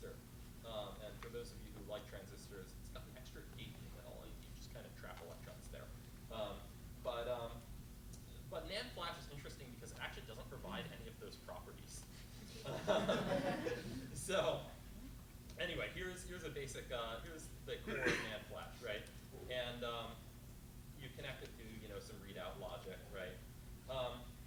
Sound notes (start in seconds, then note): 12.4 chuckles